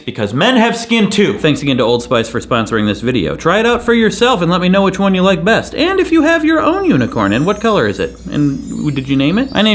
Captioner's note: none